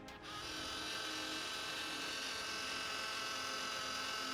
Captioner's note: robot whirring